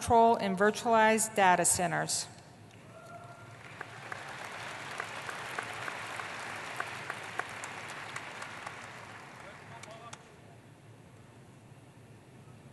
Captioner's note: applause